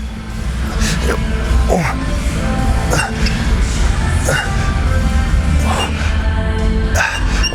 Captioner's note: grunts; grunting